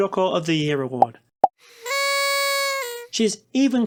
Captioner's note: pop; drooping party flute noise